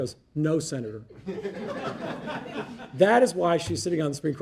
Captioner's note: audience laughing